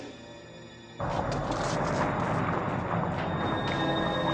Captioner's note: rumbling